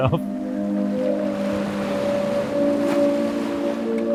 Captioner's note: ocean sounds